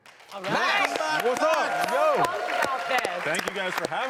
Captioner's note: audience applauding